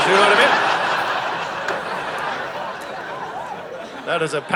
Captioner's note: audience laughing